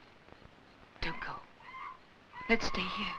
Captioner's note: screeching in the jungle